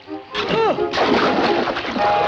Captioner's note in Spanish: grita